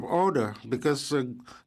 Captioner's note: speaking French